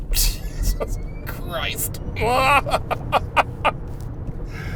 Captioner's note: laughs